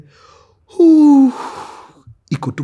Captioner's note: sighs